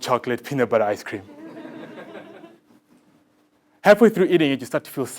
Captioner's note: laugh